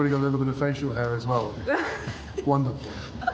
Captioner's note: Meghan laughing